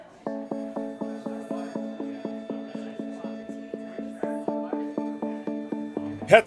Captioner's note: people chattering; upbeat music